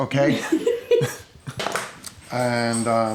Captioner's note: laughs